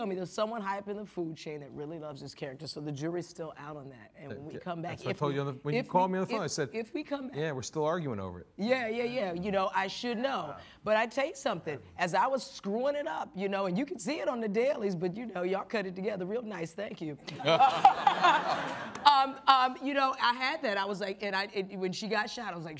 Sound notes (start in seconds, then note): 17.4 all laughing